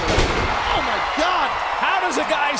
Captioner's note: body thuds